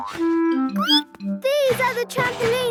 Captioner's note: squeaks